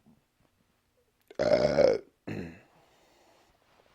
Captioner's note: burps